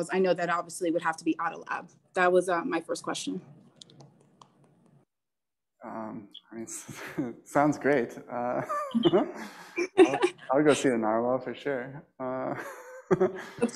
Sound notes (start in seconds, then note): 8.4 laughs; 13.0 laughs